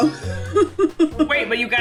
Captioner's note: girls laugh happily